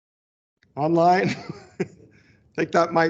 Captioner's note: chuckles